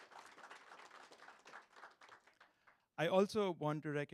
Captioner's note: audience claps